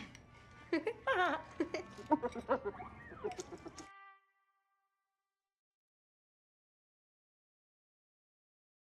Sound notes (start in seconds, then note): 0.7 both chuckle; 0.7 Cassandra chuckles; 1.5 Bruce chuckles